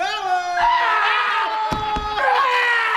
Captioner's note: screaming